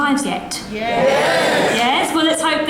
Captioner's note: audience cheers